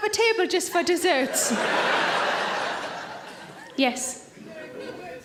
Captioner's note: audience laughs